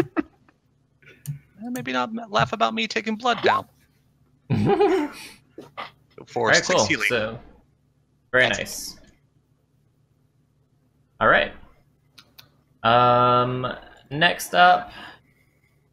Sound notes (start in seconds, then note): 4.5 laughter